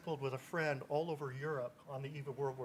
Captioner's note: none